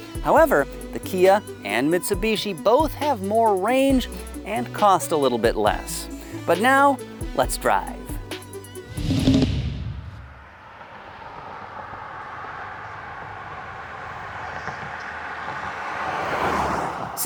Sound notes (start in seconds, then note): 8.8 car whooshing